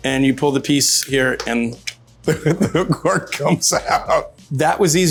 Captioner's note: laughs